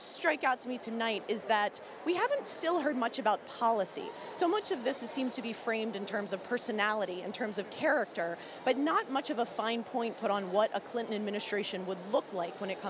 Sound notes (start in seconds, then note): none